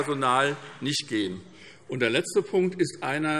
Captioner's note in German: Beifall SPD und DIE LINKE